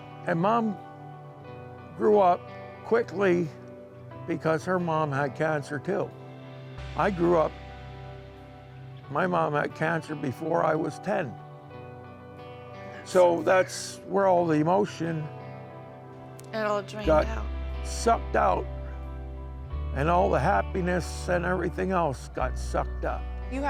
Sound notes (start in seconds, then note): 13.1 whispers